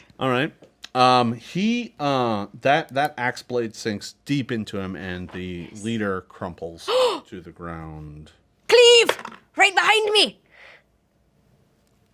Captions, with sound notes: - All right, that ax blade sinks deep into him, and the leader crumples to the ground. - Cleave (dice roll), right behind me.